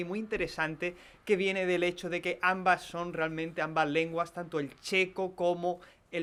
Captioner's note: farsi